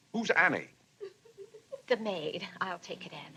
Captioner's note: Annie sobbing